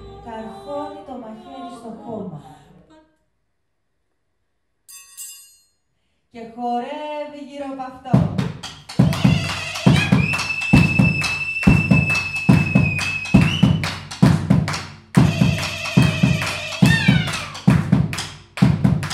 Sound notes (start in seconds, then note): 9.8 cheers, whistles; 13.2 rhythmic drumming